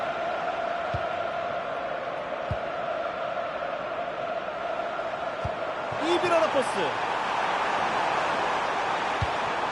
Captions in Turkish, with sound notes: [coşkulu tezahürat] İyi bir ara pası.